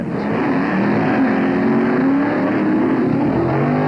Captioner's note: engines roaring